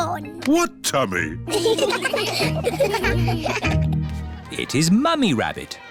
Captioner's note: laughter